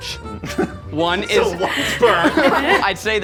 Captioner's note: laughing